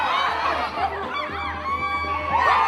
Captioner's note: howls